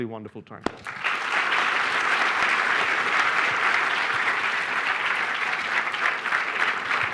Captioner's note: applause